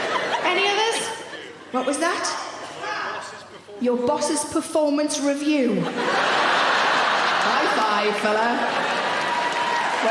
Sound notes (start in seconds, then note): 0.0 audience laughing; 5.8 audience laughing; 6.2 audience cheering